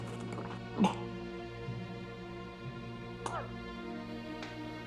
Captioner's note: coughing; soft dramatic music